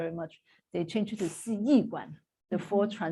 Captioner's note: non-english speech